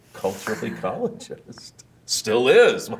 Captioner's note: both laughing